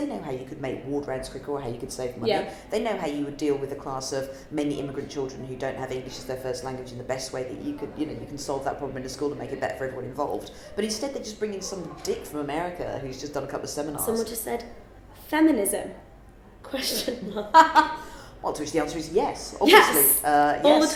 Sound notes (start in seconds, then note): 16.8 laughs